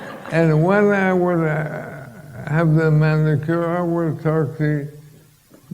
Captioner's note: laughter